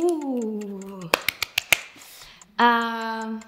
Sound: clapping

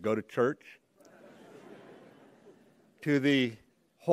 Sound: laughter

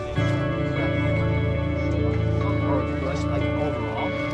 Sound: crowd chattering

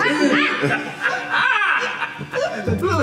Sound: Jean laughing

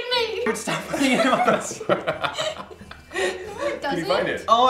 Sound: laughter

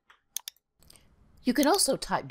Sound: mouse clicking

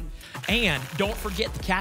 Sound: tickets shuffling

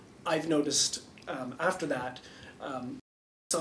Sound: none

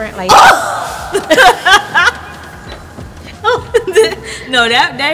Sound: laughing

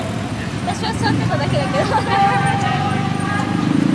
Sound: laughs

